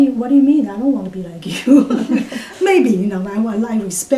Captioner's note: all laugh